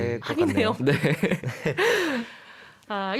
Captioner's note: laughs